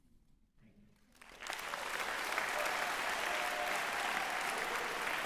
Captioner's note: applause